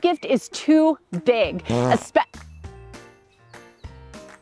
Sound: fart

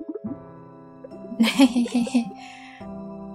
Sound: laughter

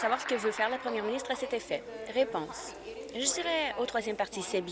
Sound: applause

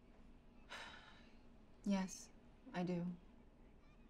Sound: sighs

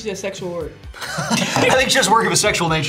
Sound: both laugh

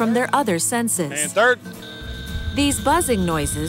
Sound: buzz

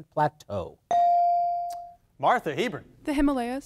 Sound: device dings

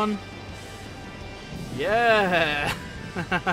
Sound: laughter

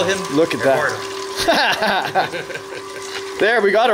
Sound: laughing

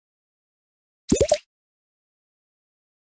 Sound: notification sound

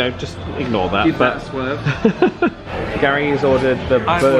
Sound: laughing

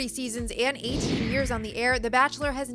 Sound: air whooshes

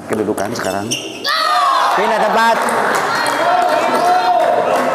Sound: applause

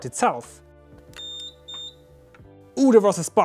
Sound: beep Sounds

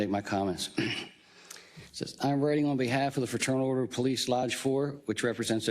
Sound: cough

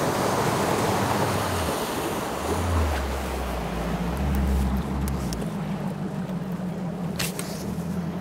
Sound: engine revving

